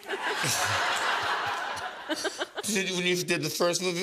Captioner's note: laughter